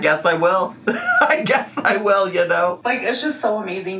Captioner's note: laughs